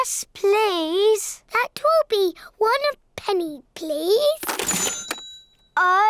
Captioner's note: dings